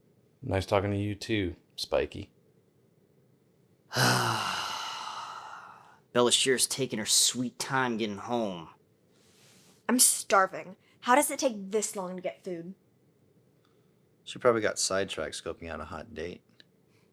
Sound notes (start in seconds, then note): 3.9 sigh